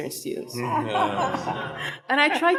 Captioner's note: people laughing